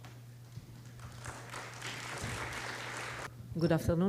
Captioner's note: applause